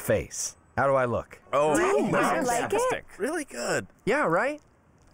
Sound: all muttering

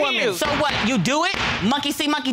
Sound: gavel bangs

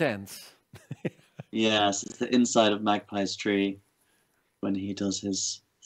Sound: chuckles; laughs

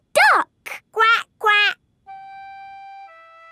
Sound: quacking

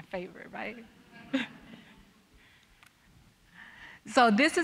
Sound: audience chuckling

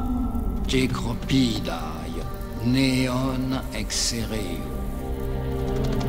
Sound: Athenian speaking in foreign language

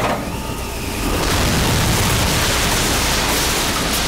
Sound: helicopter crash

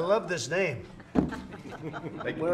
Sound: laughter

